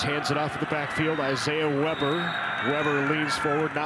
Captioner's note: referee blows whistle